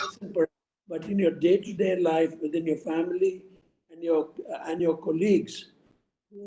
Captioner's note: audio disturbance